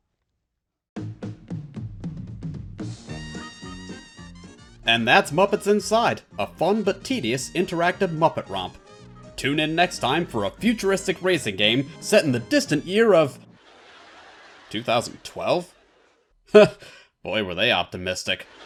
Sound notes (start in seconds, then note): 13.4 music stops; 13.5 audience chuckles